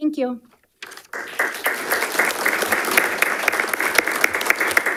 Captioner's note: audience applauding